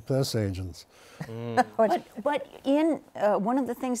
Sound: laughs

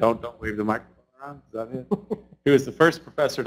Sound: laughs

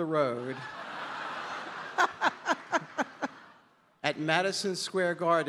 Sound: audience laughing

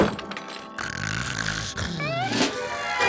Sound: snoring

